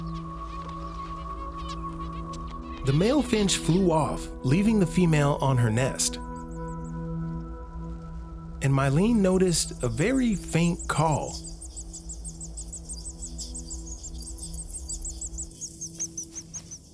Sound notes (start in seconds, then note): 0.1 soft music; 11.8 bird warbles